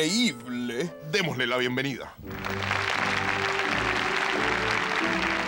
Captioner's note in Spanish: Aplausos